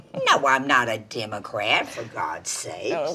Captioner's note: Dory chuckles